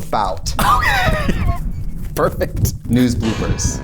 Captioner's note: laughs